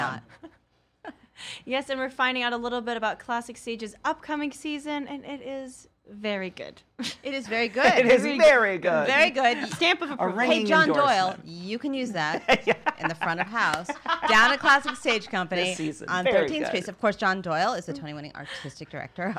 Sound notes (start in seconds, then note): 12.3 laughs